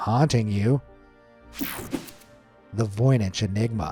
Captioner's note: screen whooshing